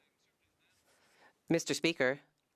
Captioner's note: speaking French